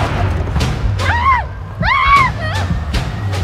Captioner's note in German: Hilfeschreie